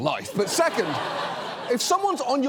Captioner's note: studio audience laughs